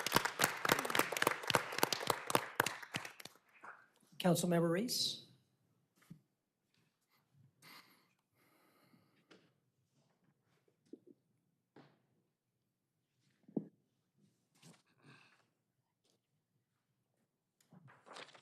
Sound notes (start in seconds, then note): 3.9 applause